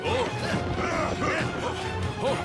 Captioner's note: grunting